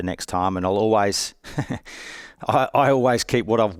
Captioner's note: chuckles